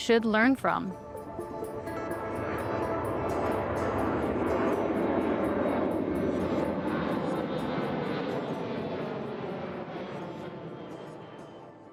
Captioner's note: airplane sounds